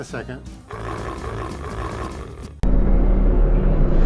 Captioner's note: bear noises